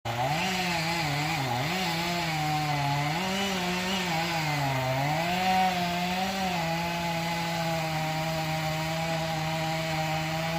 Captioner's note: chainsaw